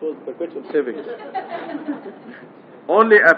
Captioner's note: gülüşmeler